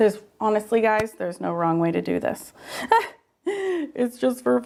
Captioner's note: laughs